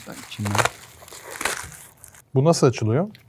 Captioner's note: cargo Package Opening Sound